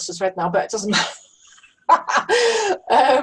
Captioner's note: laughing